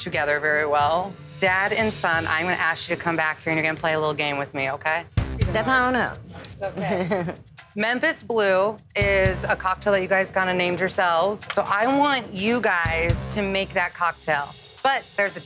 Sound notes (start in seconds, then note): 6.7 staffs mumbles and giggles